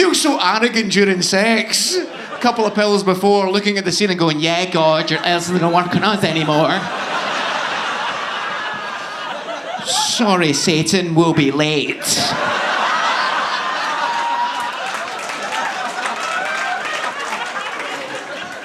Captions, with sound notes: You feel so arrogant during sex. A couple of pills before looking at the ceiling going, "Yeah God, your ass doesn't work on us anymore." (audience laughing) "Sorry Satan, we'll be late." (audience applauding)